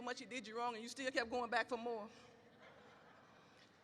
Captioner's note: audience laughs